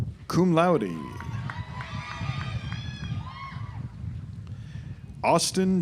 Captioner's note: audience applauds